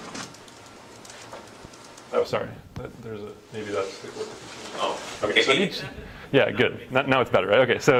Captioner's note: laugh